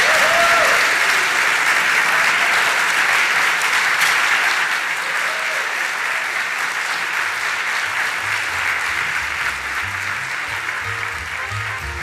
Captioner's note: applause